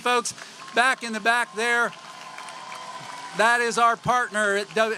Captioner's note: applause